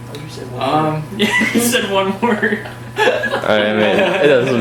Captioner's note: laughs